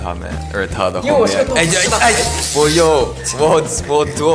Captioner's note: talking